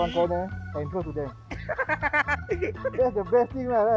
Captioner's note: adorable laugh